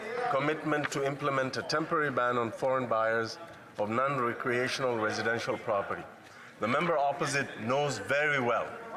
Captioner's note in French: voix de l'interprète